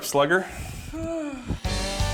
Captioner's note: exhales